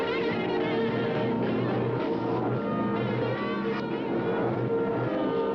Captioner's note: distorted humming and whirring